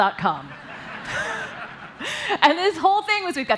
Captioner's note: laughter